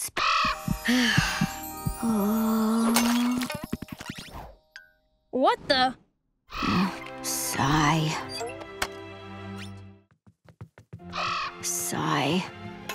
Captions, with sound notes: [sighing] [moaning] What the... Sigh. Sigh.